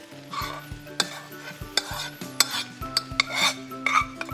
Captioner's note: pan scraping